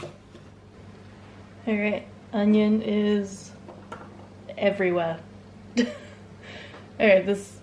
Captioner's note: laughs